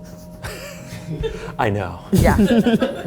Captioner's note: laughing